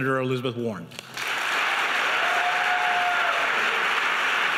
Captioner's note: audience cheers